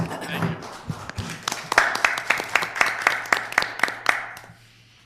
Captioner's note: audience applauding